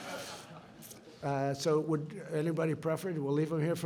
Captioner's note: laughter